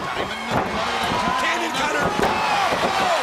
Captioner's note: crowd cheering